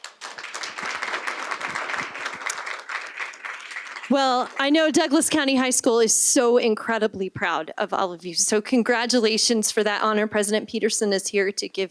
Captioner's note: applause